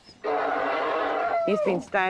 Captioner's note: grunting